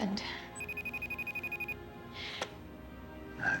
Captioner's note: cell ringing